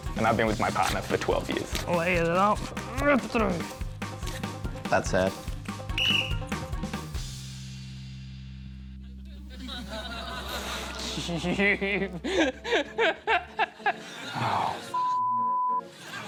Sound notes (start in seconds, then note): 5.9 blows whistle; 9.5 laughter; 12.6 laughs